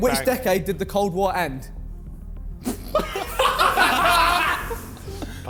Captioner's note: men laughing